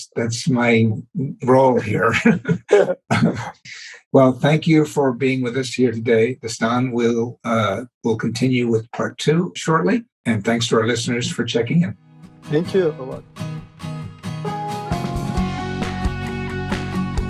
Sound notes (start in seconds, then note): 1.9 laughing; 12.5 upbeat music